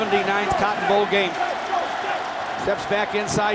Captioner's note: chanting